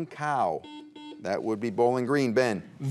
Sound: buzzer beeps

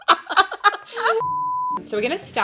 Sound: women laughing; beep

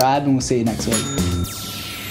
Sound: bright music; bell chiming

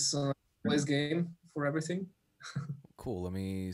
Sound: laughs

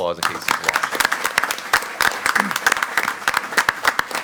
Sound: all applaud

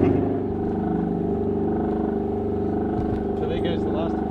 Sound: pump rumbling

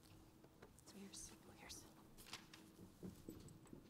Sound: whispering

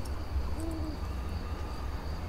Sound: owl hooting

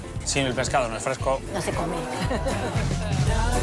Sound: laughs

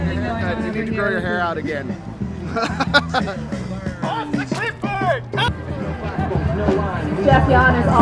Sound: laughs

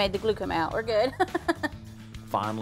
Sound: laughs

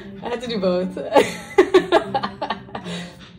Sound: laughing

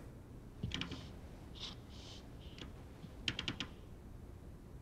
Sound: floor creaking

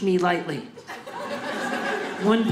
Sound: audience laughing

